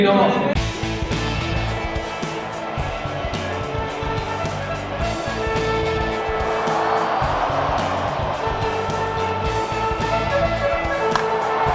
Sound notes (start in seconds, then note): 0.3 trumpet sounding; 6.7 cheering